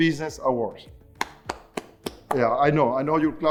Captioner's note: claps